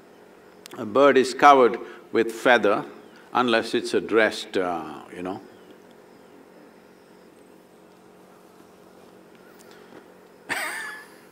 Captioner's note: laughs